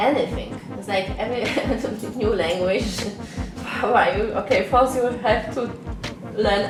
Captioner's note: laughs